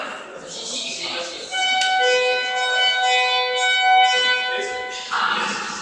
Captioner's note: signal Sound